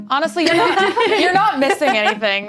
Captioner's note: laughs